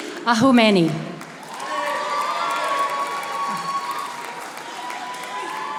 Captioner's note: audience applauding